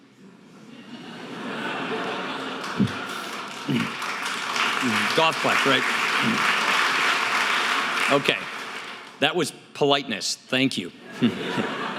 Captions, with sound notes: (audience laughing) (audience applause) That was politeness. Thank you.